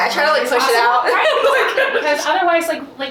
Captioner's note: laughs